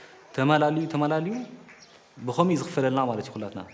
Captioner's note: tigrinya spoken audio